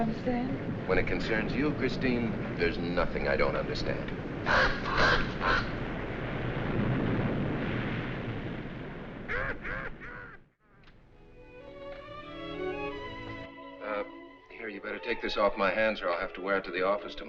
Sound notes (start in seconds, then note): 4.4 bird cawing; 11.0 serene music